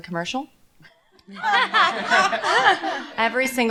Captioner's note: laughter